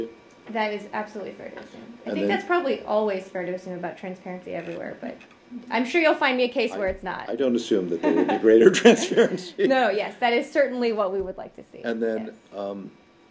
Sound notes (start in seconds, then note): 7.9 laughter